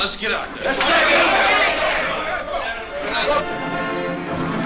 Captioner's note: players yell